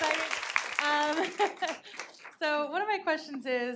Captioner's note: audience applauding